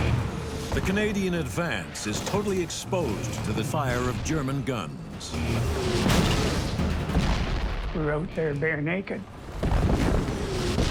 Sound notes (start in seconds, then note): 6.0 shells exploding